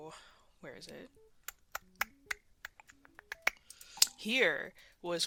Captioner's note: mouth Clicking Sounds